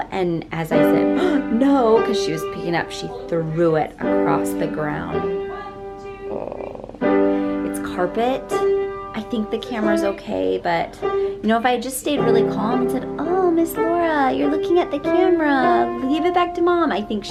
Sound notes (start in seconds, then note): 0.8 gasping; 6.2 groaning